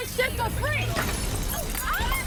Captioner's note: glass shattering; screams